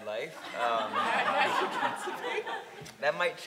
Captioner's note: audience laughing